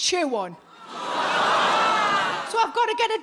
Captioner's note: audience laughs and groans